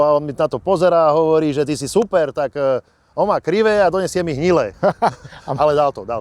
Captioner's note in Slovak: smiech